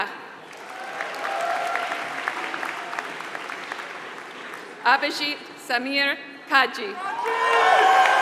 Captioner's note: applause; applause